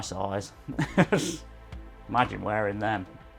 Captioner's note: laughs